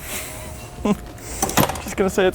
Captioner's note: chuckles